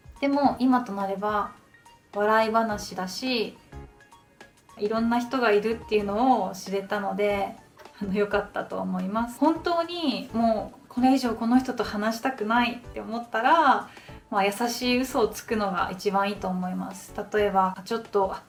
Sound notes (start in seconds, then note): 9.2 English speaking